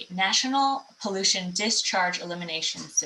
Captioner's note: hablando inglés